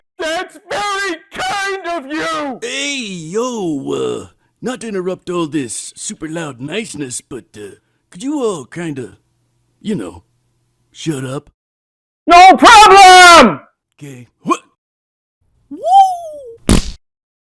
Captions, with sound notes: That's VERY KIND OF YOUUUUUU!!! Ayyyy, yo-wuhhh... not to interrupt all this super-loud niceness, but--eh, could you all, kinda... y'know... shut up? NO PROBLEM!! 'Key... WH--?! WOOOOOOOOOOOOO!! [SPLAT]